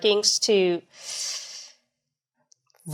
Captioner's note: inhales sharply